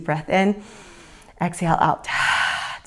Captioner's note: inhales; exhales